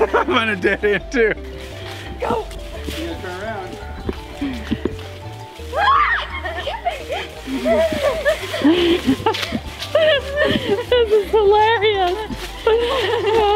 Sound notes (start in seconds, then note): 5.7 screaming; 9.4 laughter